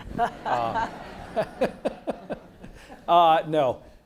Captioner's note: everyone laughs